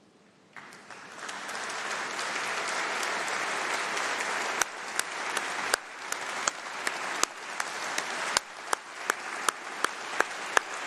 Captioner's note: applause